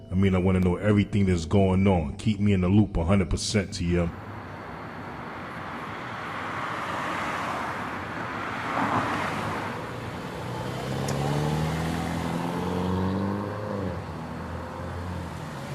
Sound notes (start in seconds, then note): 6.1 car passes; 11.7 engine revs